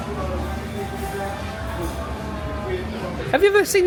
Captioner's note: crowd chattering